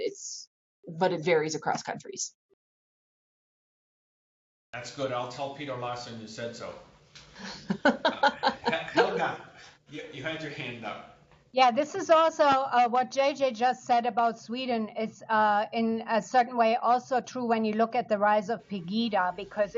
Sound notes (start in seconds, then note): 3.3 laughter